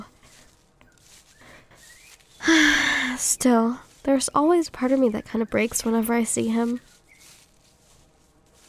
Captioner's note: sigh